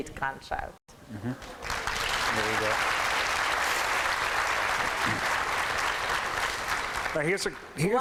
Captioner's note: applause